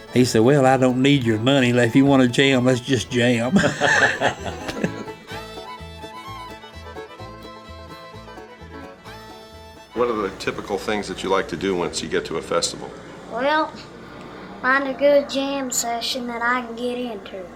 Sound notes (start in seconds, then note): 3.2 laughing